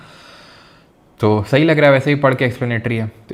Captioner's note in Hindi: अचानक ज़ोर से सांस लेने की आवाज़; गहरी सांस लेने की आवाज़